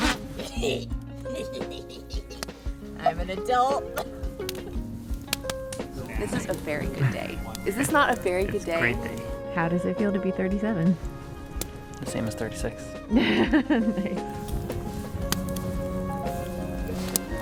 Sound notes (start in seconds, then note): 1.2 laughs; 3.0 farts and cackles; 13.1 laughs